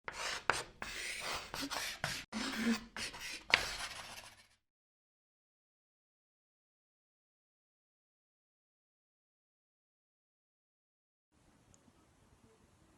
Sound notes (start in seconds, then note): 0.0 chalk writing